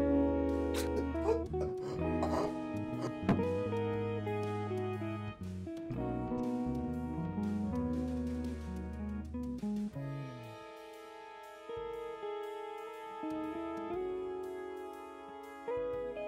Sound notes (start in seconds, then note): 0.8 gasping; 3.1 thud